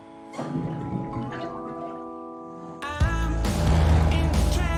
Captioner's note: water cooler gurgles